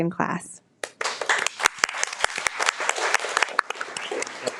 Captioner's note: all applauding